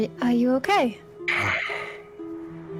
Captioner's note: sigh of relief